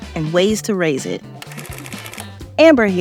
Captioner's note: calculator clicking